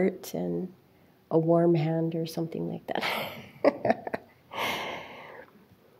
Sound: chuckles

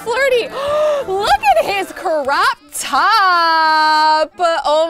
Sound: gasping

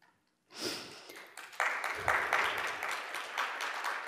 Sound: applause

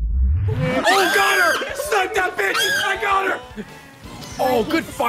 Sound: screeching

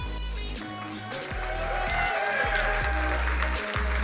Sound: crowd cheering and applauding

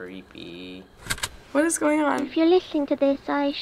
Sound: click

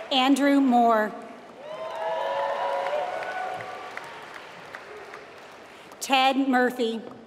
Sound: applause

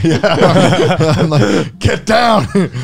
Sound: everyone laughs

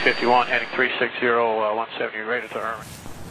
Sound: air traffic chatter

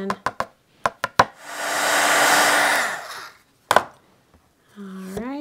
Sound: blower motor squealing

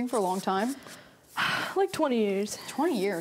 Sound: sighs

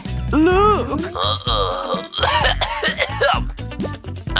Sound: yawns; coughs

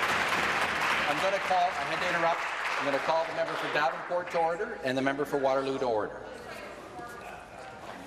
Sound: applause

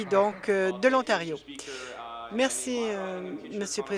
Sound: some Applause

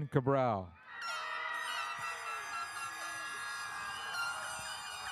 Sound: airhorns sound

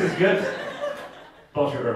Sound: audience laughing

